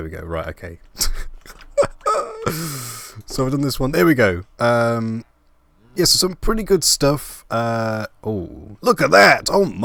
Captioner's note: laugh